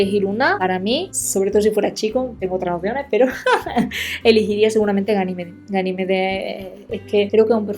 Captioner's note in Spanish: risas